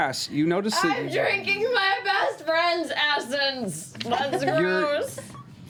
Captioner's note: shouting